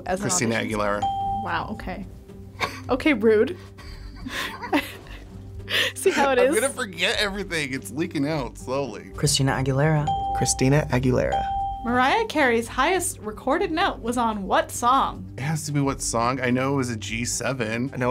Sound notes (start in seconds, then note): 0.3 bell rings; 3.7 both laugh; 10.0 bell rings